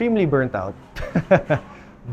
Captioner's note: laughs